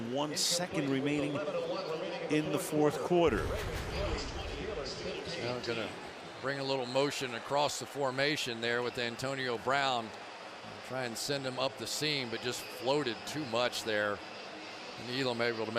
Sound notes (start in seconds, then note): 3.3 swoosh